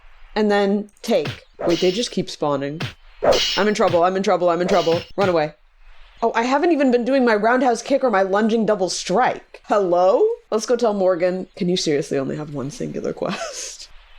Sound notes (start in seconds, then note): 13.3 laughs